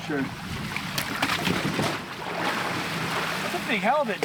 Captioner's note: water splashing